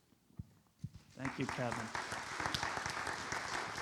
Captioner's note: audience applauds